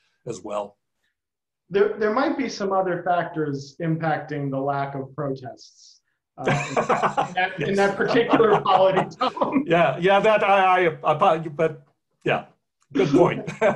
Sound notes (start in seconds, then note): 9.1 laughter